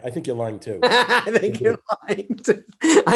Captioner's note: David laughs